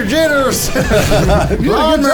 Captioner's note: laughs